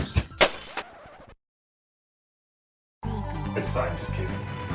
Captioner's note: glass breaks